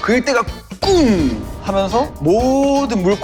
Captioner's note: explosive sound